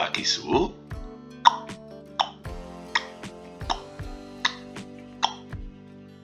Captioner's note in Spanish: tic tac tic tac